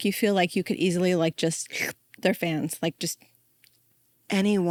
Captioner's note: inhales sharply